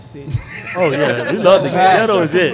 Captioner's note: laughing